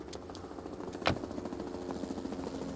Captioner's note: helicopter passes overhead